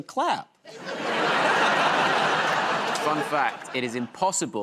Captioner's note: laughter